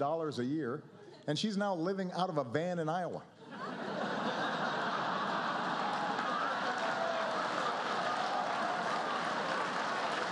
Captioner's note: laughter